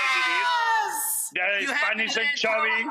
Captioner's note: Rachael cheers